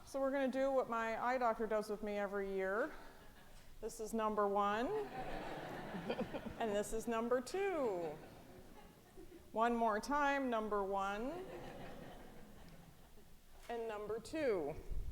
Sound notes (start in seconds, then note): 5.0 audience laughing; 11.4 audience laughing